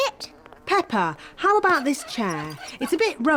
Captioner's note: flies buzzing